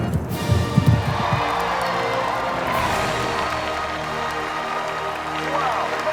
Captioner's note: uplifting music; crowd cheering